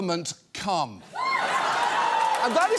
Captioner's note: audience cheers